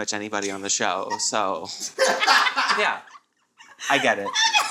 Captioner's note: all laugh